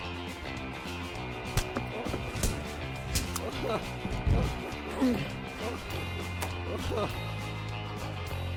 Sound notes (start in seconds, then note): 3.2 laughing